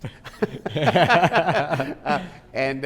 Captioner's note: both laughing